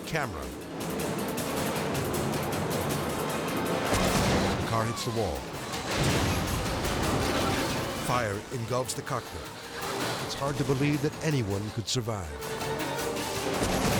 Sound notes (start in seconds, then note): 0.3 edgy dramatic music; 3.7 dramatic whoosh; 6.7 car exploding; 12.4 edgy dramatic music